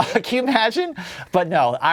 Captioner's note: laughs